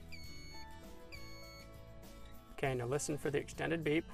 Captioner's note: device beeps